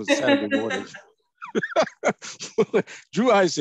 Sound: laughter

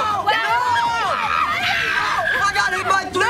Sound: screams

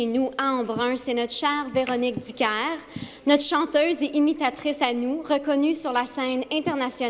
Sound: speaking FRENCH

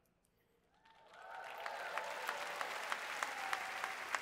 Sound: applause

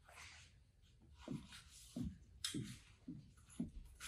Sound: more footsteps

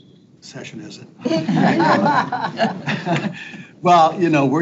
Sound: people laugh

